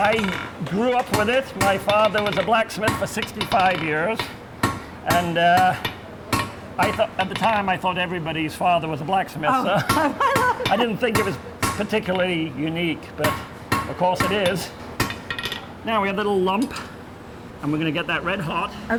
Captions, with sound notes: >>I grew up with it. My father was a blacksmith for 65 years. And, I thought at the time I thought everybody's father was a black smith. >>Oh I love that. (laughing) >>I didn't think it was particularly unique, but of course it is. Now we have a little lump. And we're gonna get that red hot.